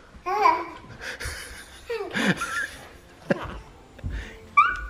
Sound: laughs

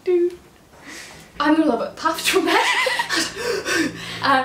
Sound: laugh

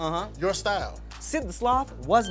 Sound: bell dings

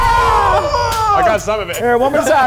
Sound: screams

